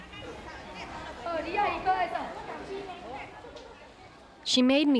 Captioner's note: sounds of city